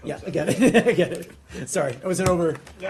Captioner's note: laughter